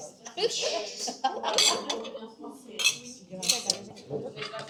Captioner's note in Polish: śmiech